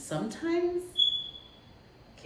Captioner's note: whistle blows